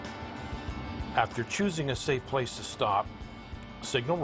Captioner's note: voiceover